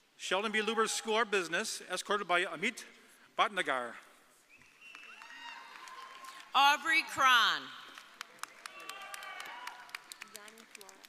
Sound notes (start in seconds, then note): 4.6 audience applauding; 7.8 audience applauding